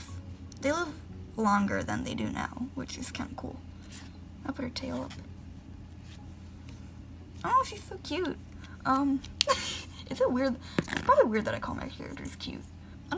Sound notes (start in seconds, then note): 9.4 laughs